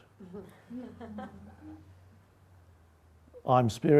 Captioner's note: audience laughing